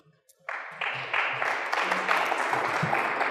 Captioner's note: applause